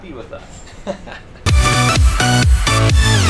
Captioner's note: laughs